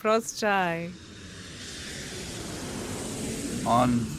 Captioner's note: Ukrainian